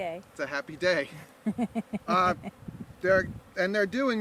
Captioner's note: woman laughing